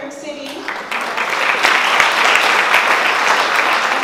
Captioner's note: applause